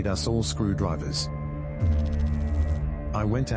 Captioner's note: electrical noise